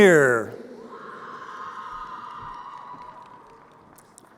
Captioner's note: crowd cheering